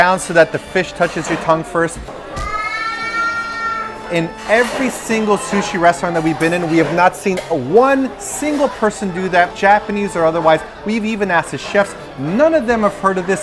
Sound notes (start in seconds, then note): 2.4 crying baby